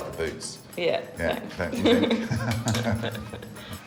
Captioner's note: chuckling